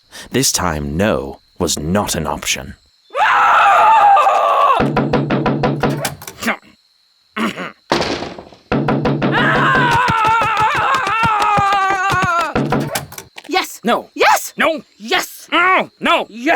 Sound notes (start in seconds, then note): 3.2 woman yells and bangs on door; 7.9 door slams; 9.1 woman yells and bangs on door